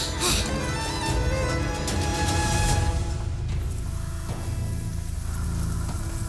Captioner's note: amicia breathing heavily